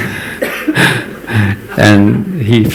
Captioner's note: laughter